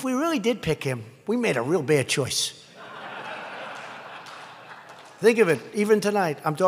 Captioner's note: laughter